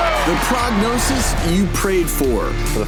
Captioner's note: audience Clapping